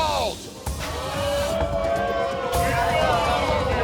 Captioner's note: patrons booing